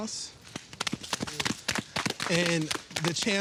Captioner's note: all applauding